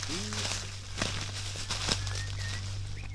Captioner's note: rustling leaves